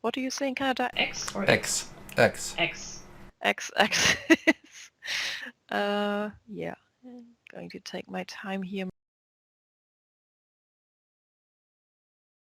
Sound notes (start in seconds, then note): 4.5 chuckle